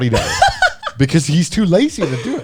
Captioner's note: chuckles